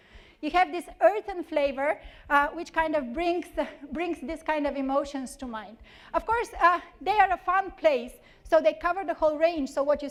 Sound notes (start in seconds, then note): none